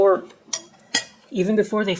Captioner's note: clink, clank